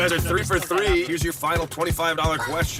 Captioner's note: laughs